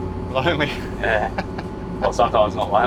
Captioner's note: laughs